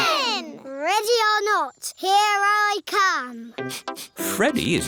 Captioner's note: sniffs